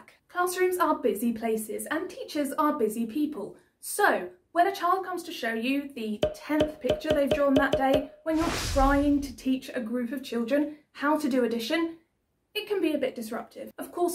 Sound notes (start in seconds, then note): 6.2 popping sound as each picture shows